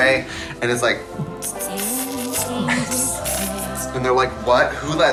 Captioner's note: clicking tongue